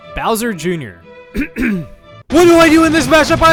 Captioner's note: clears throat